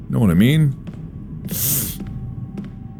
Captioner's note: big Sniff